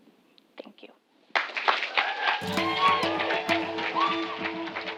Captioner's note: applause